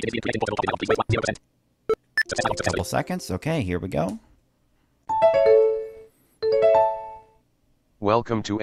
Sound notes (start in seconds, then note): 1.9 Computer sound of closing NVDA and reopening; 2.1 computer Beep